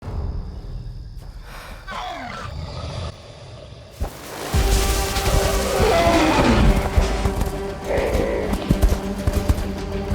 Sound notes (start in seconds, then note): 1.8 hissing, snarling; 4.0 dramatic music playing; 5.8 roaring